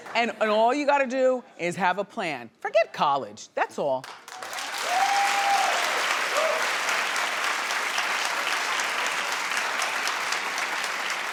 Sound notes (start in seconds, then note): 4.4 audience cheering